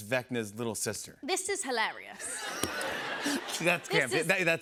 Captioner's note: laughter